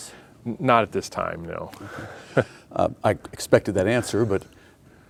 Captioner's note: laughing